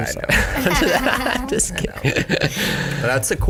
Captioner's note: laugh